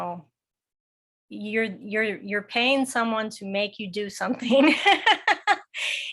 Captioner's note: laughs